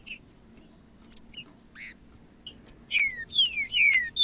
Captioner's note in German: trinca ferro cantando